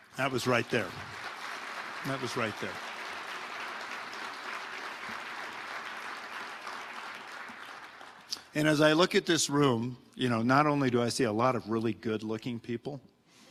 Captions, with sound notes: That was right there, that was right there. (audience applauding) And as I look at this room, you know, not only do I see a lot of really good looking people,